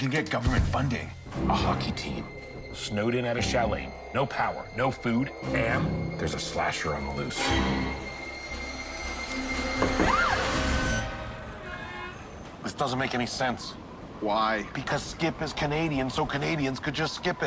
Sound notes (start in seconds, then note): 10.0 screams; 11.7 door crks